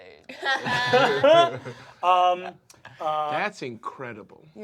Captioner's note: laughter